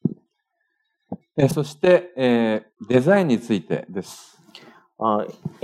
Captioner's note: speaking japanese